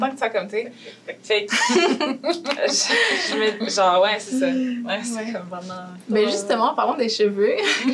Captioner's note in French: rires